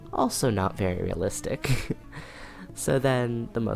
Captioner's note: chuckles